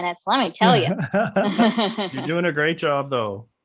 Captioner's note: laughing